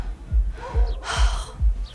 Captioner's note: sighs